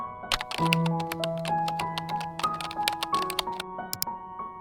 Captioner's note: keyboard typing; gentle upbeat music; mouse click